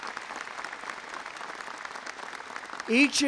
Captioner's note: applause